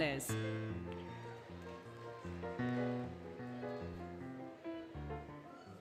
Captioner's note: applause, Cheering, Music